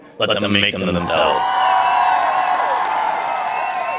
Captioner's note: crowd cheers and applauds